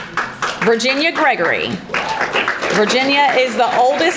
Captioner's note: audience applauding